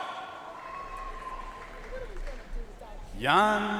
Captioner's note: audience cheering and applauding